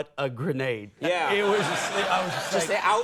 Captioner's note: audience laughs